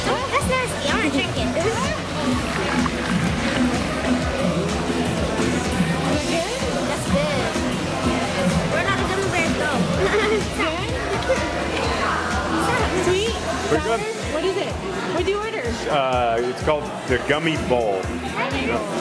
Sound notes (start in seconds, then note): 9.8 laughing